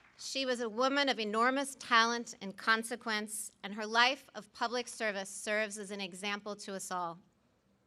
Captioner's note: applause